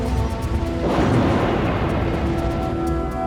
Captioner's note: thunderous blow